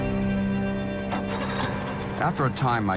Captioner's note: boat engine revving